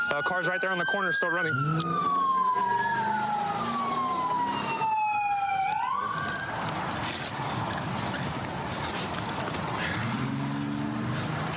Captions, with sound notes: Car's right there on the corner still running. [engine revving]